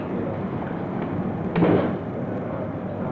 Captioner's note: door closing